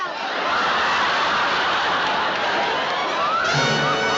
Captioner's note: laughter